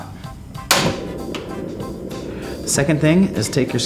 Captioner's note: burner clicks on